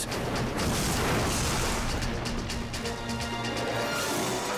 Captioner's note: helicopter slams